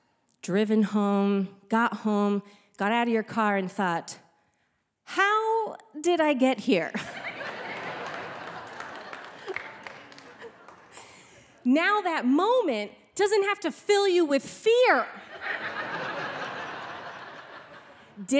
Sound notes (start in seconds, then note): 7.0 audience laughing; 15.2 audience laughing